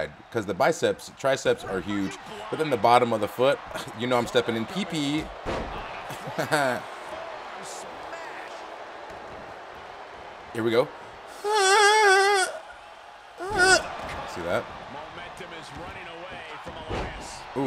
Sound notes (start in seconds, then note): 11.4 laugh